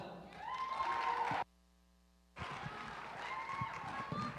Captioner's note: applause